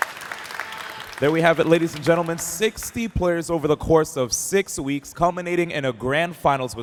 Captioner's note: applause